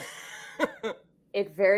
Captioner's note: laughs